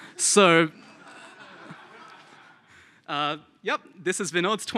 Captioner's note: laughter